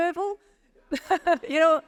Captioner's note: laughing